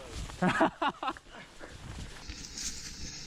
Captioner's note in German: Lachen